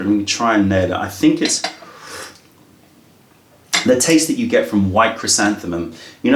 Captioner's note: sips tea